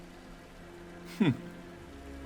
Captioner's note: gasps